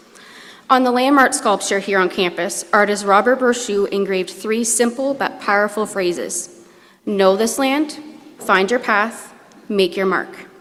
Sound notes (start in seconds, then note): none